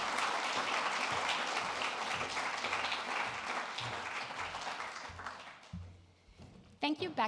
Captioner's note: applause